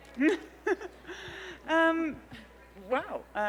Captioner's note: Phoebe laughs